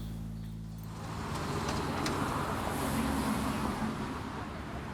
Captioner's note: traffic rumbling